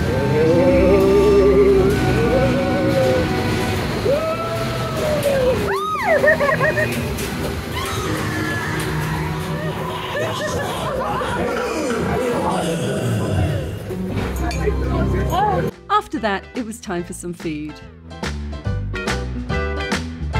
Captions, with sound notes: -WhooOOOoooo [screaming] [laughing] [blood-curdling screams] [zombie groans] After that, it was time for some food. [swing music]